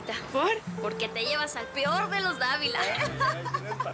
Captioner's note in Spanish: Risas